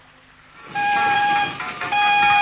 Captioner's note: horn blowing